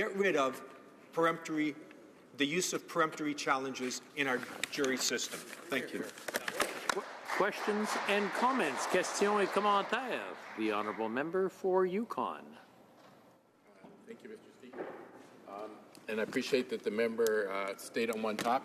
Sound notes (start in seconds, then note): 11.1 some Applause